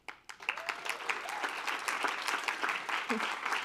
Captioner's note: applause